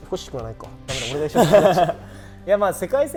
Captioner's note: laughs